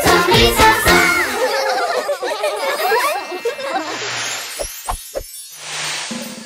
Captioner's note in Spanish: Risas